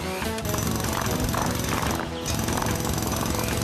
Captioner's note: jackhammer Pounding